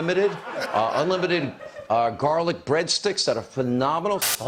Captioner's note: laughter